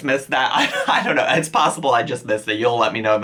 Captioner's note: chuckles